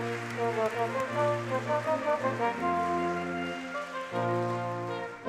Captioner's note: audience clapping